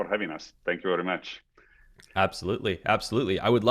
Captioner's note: silence